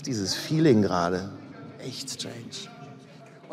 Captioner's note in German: Ferne Stimme